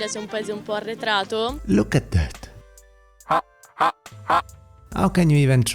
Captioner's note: robotic ha ha ha